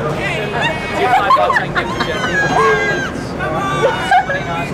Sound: laughs

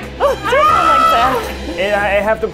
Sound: man screaming

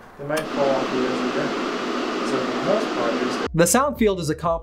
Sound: white noise drowns out speaker

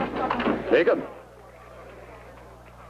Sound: none

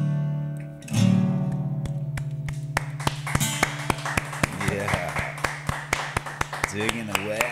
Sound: crowd cheering; clapping

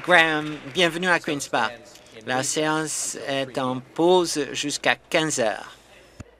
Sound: applause

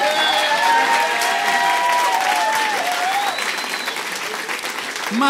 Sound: applause

